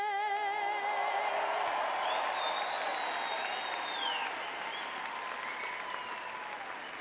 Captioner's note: audience cheering